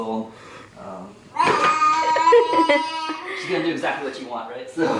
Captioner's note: laughing